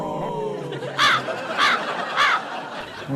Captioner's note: caw